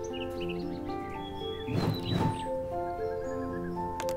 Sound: birds chirping

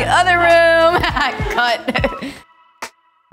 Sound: laughs

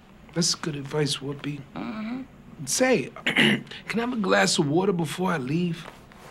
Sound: clears throat

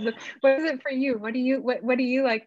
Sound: chuckles

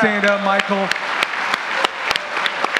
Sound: audience applauds

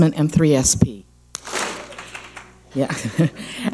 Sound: clap smack

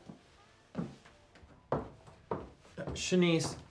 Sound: foot stamping

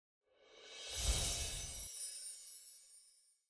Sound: enchanting sound

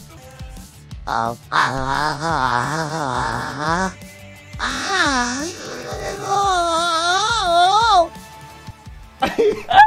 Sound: awful robotic-ish moaning

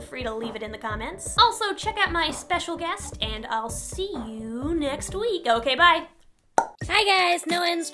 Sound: popping sound

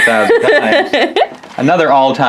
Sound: laughing

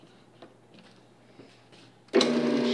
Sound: robot coupe whirring

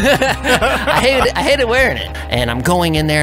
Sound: both laughing

